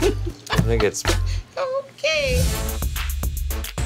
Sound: laughs

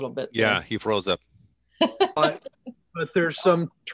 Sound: laughing

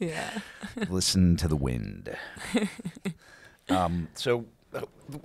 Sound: laughing

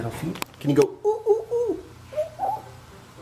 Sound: monkey call

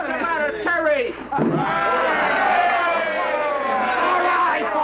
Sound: cheering

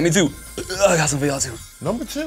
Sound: burps

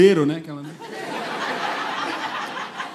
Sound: laughter

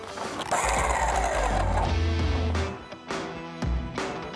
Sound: augur whirs; rock music

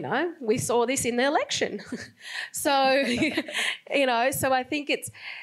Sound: laughs

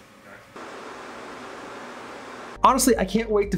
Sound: white noise

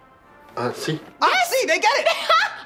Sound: speaking in Spanish

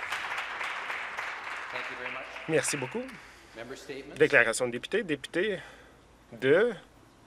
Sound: some Applause

